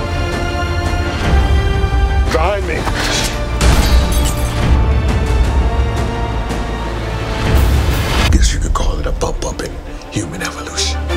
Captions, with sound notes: Behind me! [Shotgun blast] I guess you could call it a bump-upping human evolution.